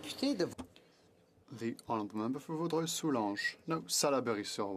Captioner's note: speaking French